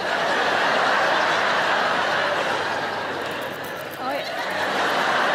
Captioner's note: audience laughing